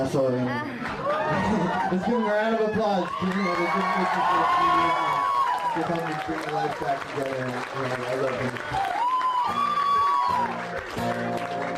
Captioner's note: applause